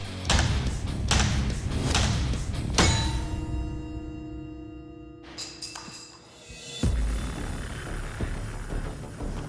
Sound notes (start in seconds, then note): 2.7 metal clangs; 5.3 clattering